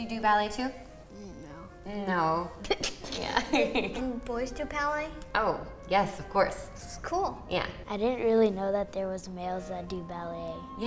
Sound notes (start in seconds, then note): 3.0 laughs